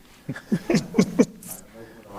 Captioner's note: laughs